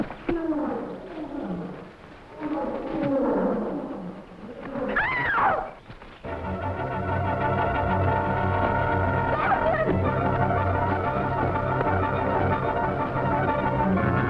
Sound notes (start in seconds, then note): 5.1 Doreen screaming; 6.2 tense music